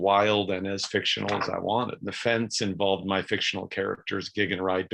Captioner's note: page flips